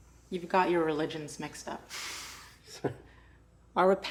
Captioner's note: laughs